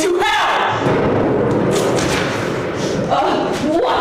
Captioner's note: nearby explosion